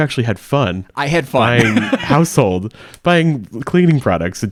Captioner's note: laughs